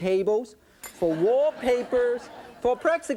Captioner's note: audience laughing